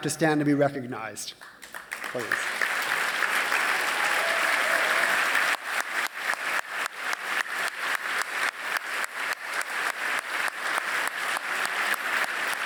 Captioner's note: applause